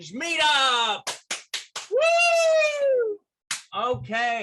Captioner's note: claps hands